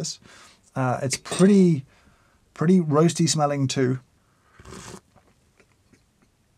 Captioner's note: sips